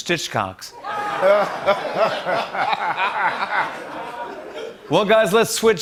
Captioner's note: laughter